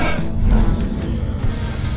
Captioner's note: swoosh